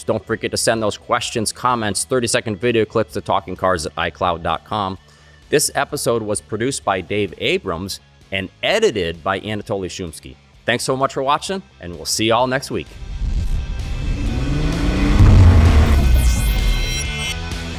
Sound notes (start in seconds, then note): 12.9 engine revving; 16.3 audio logo; 17.5 rock music